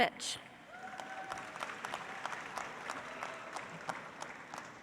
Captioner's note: audience applauds